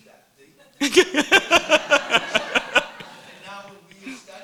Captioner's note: laughing